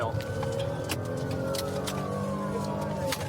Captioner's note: siren blaring